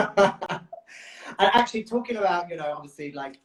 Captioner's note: laughs